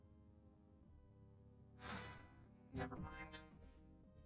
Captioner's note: sighs